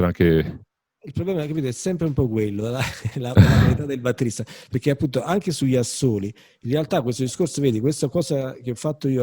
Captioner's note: laughing